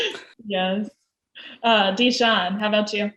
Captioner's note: laughs